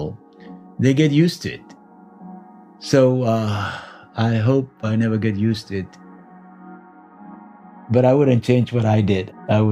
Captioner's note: sighs